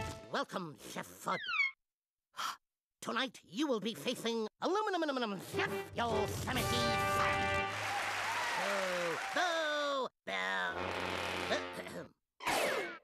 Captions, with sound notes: WELCOME, CHEF FUDD. TONIGHT, YOU WILL BE FACING ALUMINUM-NUM CHEF, YOSEMITE SAM. [crowd cheering] [booing] [clearing throat]